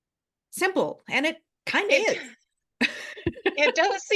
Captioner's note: laughs